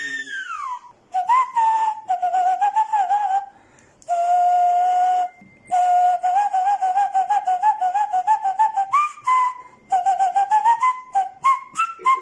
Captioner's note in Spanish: Silbidos